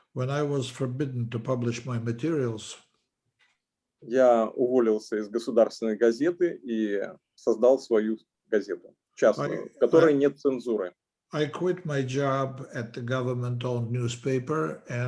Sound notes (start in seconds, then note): 4.6 speaking Russian language